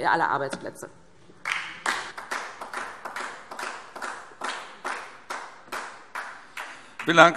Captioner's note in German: Beifall DIE LINKE